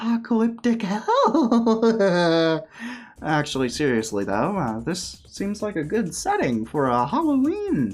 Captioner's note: crazy laugh